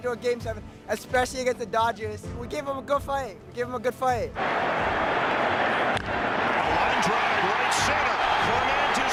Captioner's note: cheers and Applause